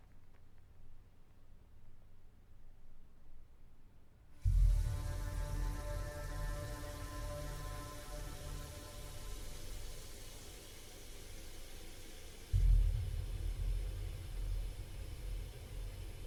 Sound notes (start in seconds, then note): 4.5 suspenseful atmospheric sounds; 7.5 water running